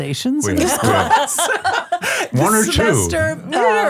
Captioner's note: everyone laughs